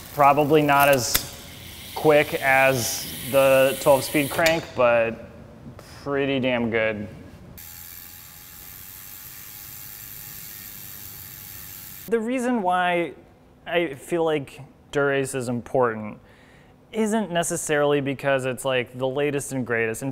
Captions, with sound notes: Probably not as quick as the 12-speed crank but pretty damn good. (bicycle whirring) The reason why I feel like Dura-Ace is important isn't necessarily because it's like the latest and greatest